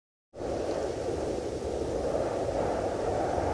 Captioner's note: wind humming